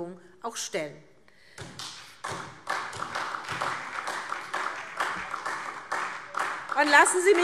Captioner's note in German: Beifall SPD